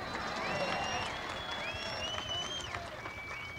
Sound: crowd cheering and applauding

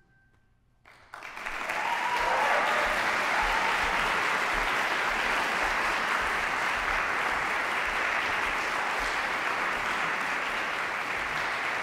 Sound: applause

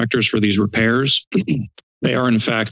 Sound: clears throat

